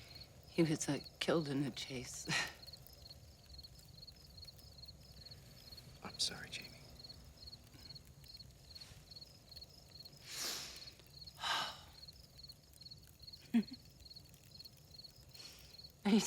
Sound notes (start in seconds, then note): 11.4 Jamie sighs; 13.4 Jamie giggles